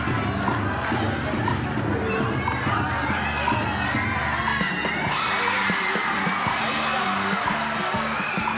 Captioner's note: audience clamoring